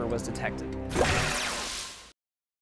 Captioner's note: swooshing Sound